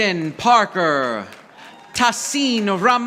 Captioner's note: audience applauding